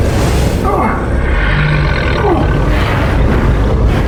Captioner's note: mysterious roaring; Hawk yells